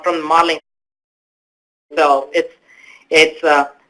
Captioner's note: audio drop-out